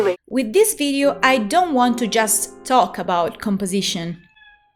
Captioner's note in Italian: meeeaaawww